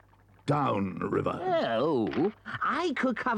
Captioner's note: Toad groans